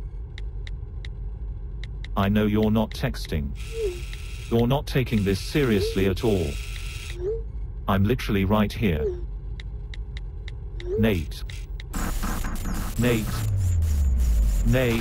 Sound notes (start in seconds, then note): 11.9 beeping